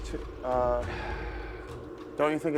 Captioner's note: sighs